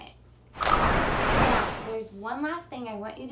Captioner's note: whooshing